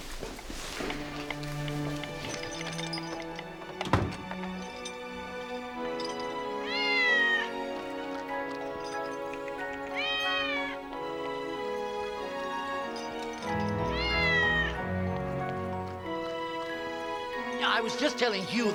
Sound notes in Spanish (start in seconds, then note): 3.1 música suave; 3.1 traqueteo de la cadena; 7.3 gato maullando